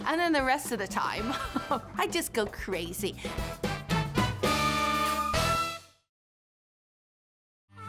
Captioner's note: laughing